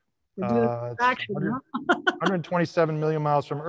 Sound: laughs

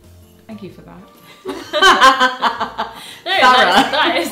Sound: laughs

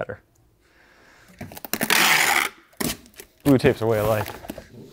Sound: tape squeaking

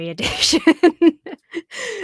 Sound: laughs

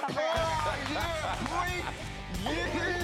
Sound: cheering, laughter

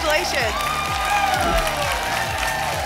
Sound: applause and cheering

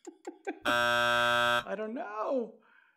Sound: laughs; buzzer

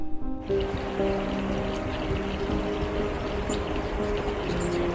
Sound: sound of nearby creek

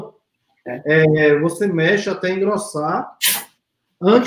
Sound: speaks portuguese

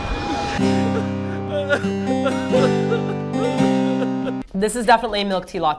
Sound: sobbing

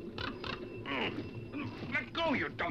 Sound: grunts

